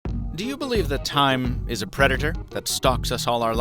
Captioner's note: voiceover